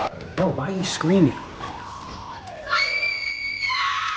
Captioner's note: screaming